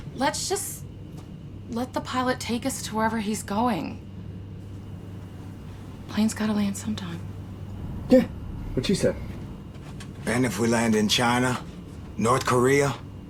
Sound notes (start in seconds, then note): none